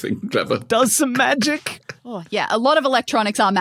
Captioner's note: snickers